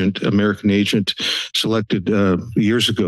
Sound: sniffles; breathes

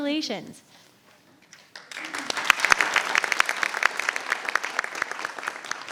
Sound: audience applauding

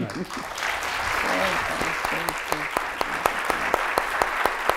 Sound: audience applauding

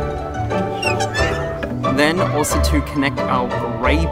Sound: power cord clicking; lid creaking

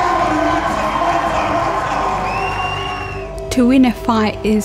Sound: crowd cheers

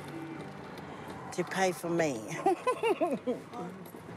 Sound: laughs

